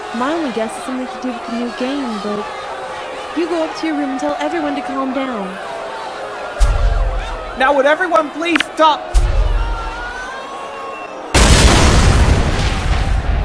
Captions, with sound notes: My only guess is something to do with the new game, but... ...you go up to your room and tell everyone to calm down. Now, would everyone please stop-- (grenade explodes)